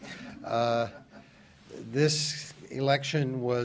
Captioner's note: laughter